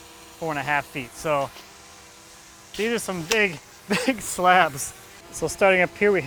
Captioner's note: laughs